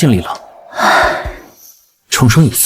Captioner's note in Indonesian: Menghela napas